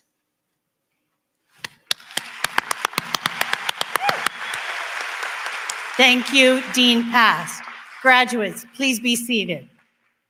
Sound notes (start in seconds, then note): 1.7 applause